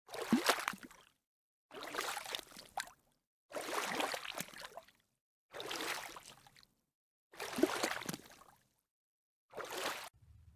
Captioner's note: water Splashing